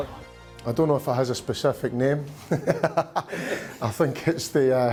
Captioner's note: chuckles